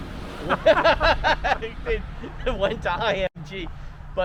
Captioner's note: shared laughing